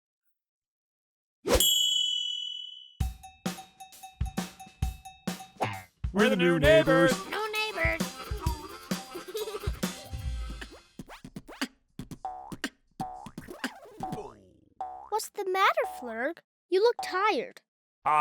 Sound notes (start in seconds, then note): 3.3 upbeat music; 9.5 children giggling